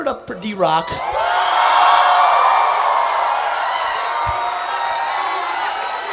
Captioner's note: attendees applauding and cheering